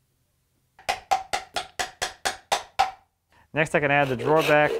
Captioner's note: mallet taps